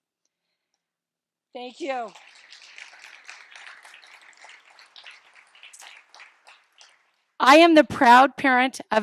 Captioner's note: applause